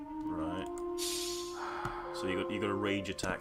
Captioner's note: sighs